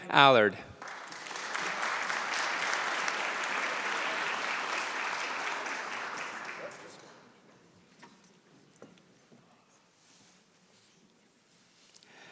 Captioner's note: applause